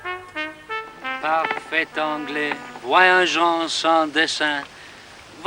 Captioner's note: speaking in french